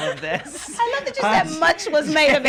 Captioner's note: laughter